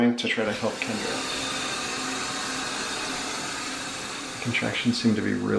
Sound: water running

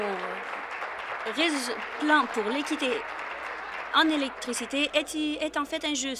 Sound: applause

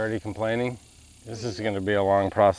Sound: insects chirping

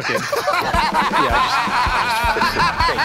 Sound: laughter

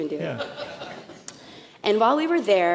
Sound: laughter

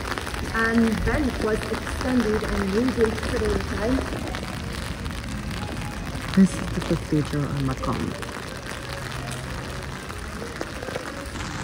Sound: rain

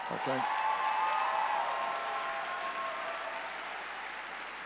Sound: audience cheering

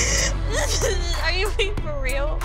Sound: sobbing

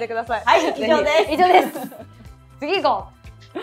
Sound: laughter

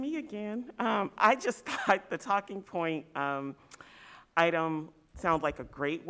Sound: chuckle

